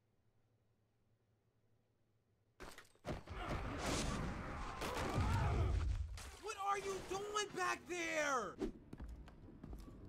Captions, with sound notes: (crashing and yelling) What are you doin' back there?